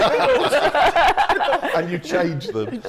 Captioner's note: laughter